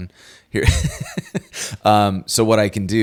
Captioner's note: laughs